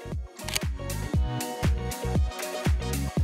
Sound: camera shutter clicks; upbeat music

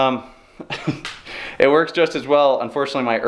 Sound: laughs

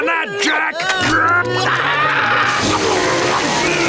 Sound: screaming

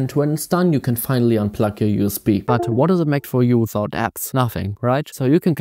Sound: computer dings

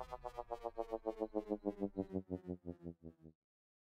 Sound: machine powers down

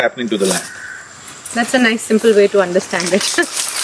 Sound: laughs

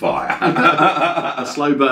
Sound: both men laughing

